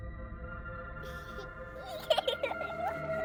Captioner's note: child giggling